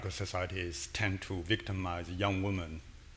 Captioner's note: none